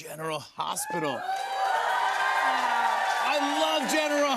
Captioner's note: cheers and applause